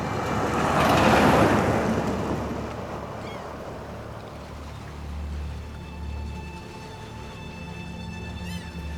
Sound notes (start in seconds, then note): 1.6 seagulls cawing; 4.4 tense music